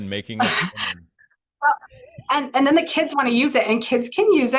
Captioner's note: laughs